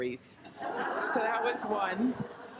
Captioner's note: group laughs